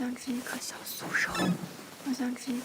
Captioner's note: whispering for help